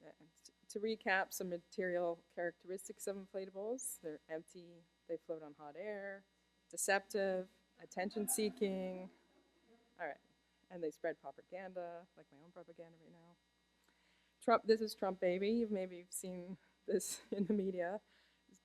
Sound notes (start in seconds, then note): 8.1 laughter